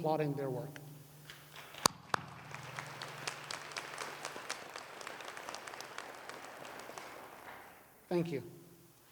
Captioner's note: applause